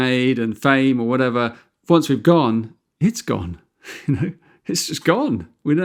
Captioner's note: chuckles